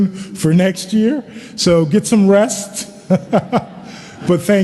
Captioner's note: chuckles